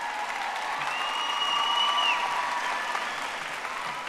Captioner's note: audience applauding